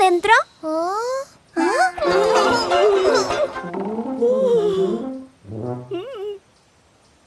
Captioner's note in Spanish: Risas